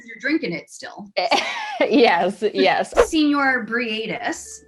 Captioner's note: laughs